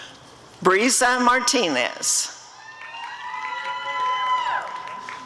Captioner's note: applause and cheering